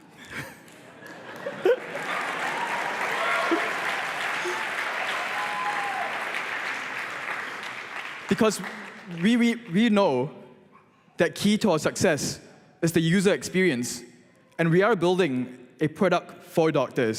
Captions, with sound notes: [APPLAUSE] --because we know the key to our success is the user experience, and we are building a product for doctors.